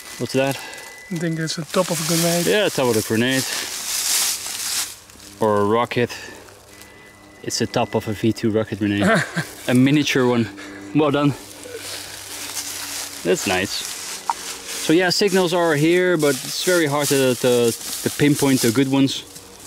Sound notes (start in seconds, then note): 8.9 chuckling